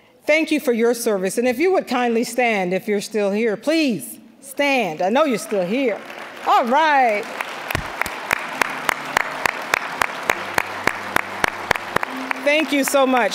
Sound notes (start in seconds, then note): 7.3 applause